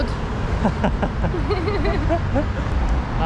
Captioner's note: laughing